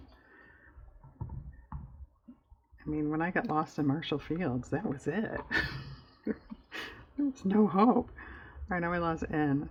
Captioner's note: laughs